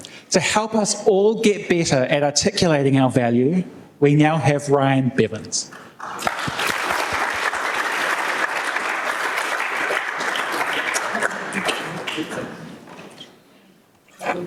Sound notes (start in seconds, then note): 5.7 applause